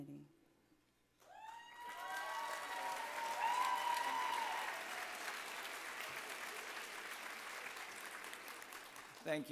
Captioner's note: applause